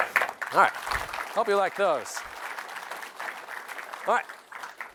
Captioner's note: applause